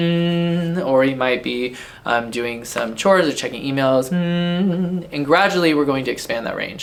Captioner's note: hums on one note